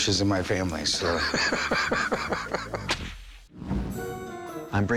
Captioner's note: laughs